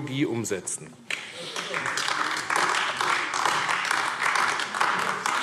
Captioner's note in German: Beifall AfD